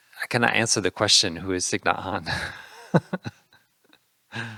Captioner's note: laughing